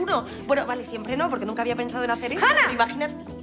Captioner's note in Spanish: gritando